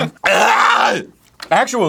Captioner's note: sounds like arnold scwarzenegger sneezing